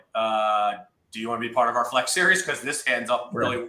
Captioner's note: laughs